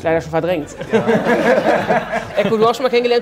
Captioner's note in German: Lachen